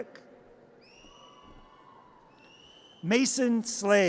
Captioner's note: audience cheers